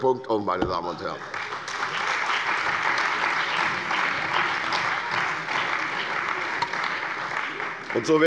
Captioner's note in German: Beifall bei der CDU und dem BÜNDNIS 90/DIE GRÜNEN